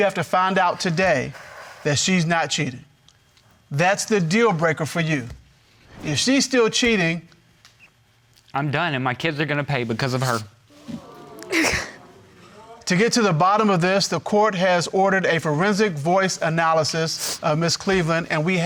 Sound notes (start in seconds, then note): 10.7 sobbing